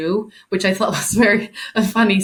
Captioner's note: chuckling